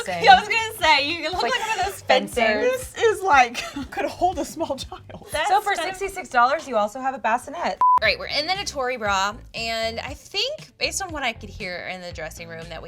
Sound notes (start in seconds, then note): 5.1 laughs; 7.8 beeping